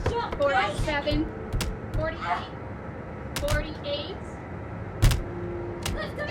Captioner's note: whip smacking